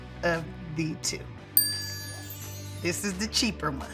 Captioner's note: bell dinging